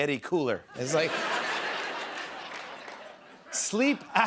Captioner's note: laughter